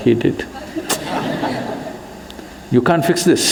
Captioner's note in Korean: 웃음